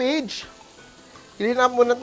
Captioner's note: sizzles